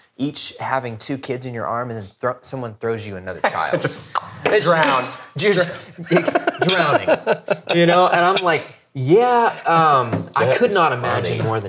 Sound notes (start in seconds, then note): 4.7 tongue clicks; 5.7 laughing